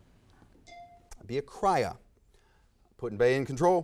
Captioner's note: bell dings